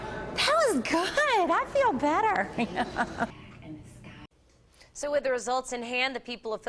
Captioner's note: laughs